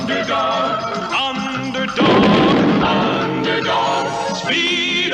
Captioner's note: explosion